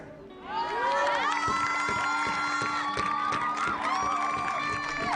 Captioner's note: audience cheering